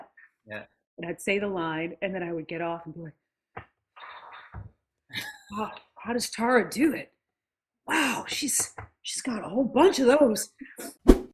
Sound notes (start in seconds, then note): 3.5 exhales loudly; 10.3 whoosh